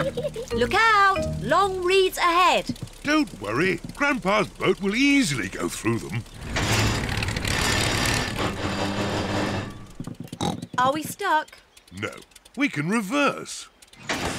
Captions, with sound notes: Look out! Long reeds ahead. Don't worry, Grandpa's boat will easily go through them. (CLUNKS AND SPLUTTERS) -(SNORTS) Are we stuck? -No, we can reverse.